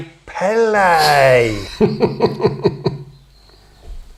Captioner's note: smug chuckling